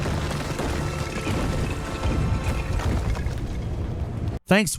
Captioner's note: rocks crumbling